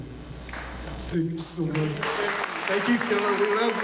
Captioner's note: applause